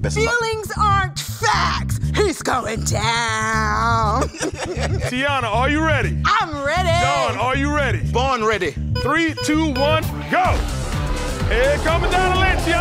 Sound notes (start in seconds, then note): 4.1 both laughing; 10.7 upbeat music